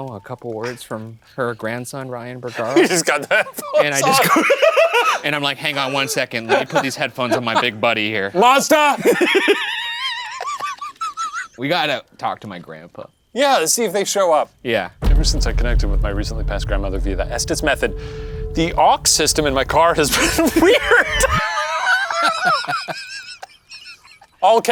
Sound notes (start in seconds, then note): 4.4 laughing; 8.9 laughing; 21.4 laughing